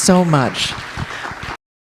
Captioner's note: applause